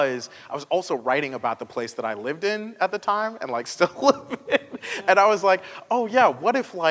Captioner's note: laughter